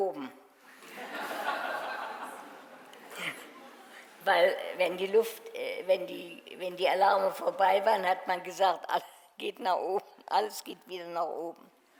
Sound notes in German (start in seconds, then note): 0.8 Publikum lacht